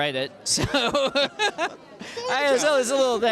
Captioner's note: laughter